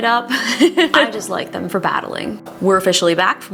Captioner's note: laughing